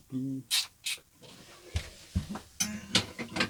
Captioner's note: humming